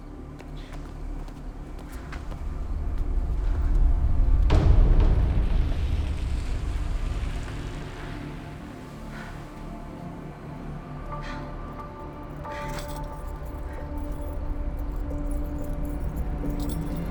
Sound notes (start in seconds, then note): 6.9 panting; 12.5 keys jingle